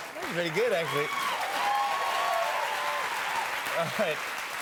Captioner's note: cheers and applause